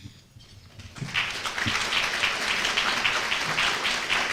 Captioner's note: applause